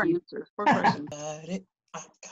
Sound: laughter

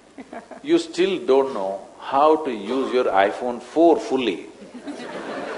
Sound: laughter; laughter

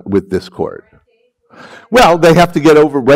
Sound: woman speaks faintly

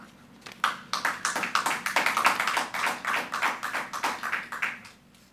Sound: audience applauding

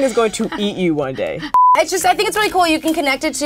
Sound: beep

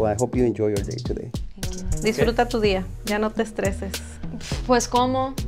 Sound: speaking Spanish

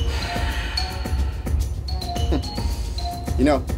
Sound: sighs

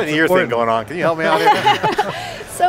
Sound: laughter

